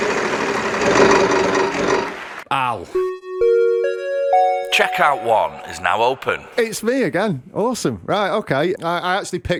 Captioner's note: chime